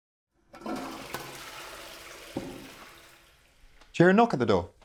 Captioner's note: toilet flushing